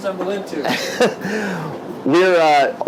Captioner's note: chuckles